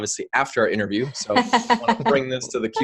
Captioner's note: laughs